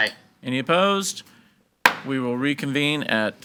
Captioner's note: gavel bangs